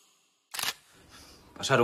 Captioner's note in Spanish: Disparo de cámara